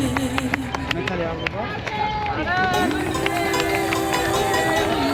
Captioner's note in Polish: Aplauz